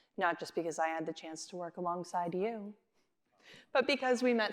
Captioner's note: none